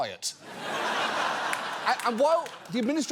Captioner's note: audience laughs